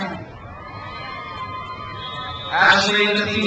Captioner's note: crowd cheers